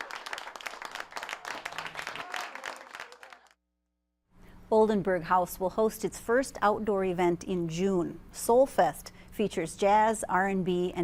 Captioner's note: applause